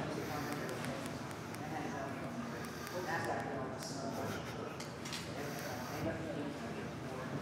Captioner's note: people chattering; phone clicking